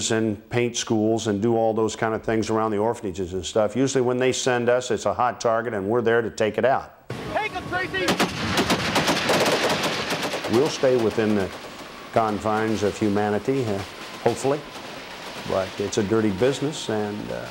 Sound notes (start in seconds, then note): 7.9 gun firing; 10.8 voiceover